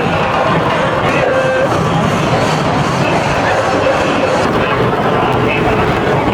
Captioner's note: bustling street; loud drum procession